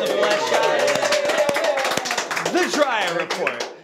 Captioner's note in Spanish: aplausos